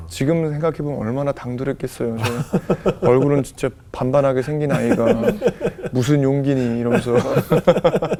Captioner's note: laughing